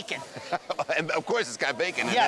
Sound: laughing

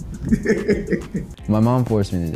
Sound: laughing

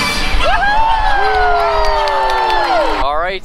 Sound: crowd cheers

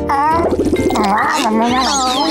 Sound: meowing

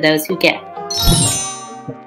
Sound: chimes

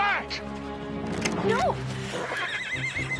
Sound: gun cocks

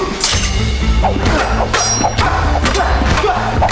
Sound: metallic sweeping; grunts

